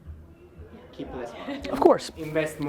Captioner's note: laughs